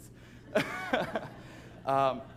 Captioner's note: laughs